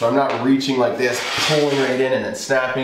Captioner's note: stick scrapes against the floor